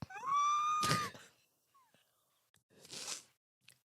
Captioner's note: high pitch cry; sniffling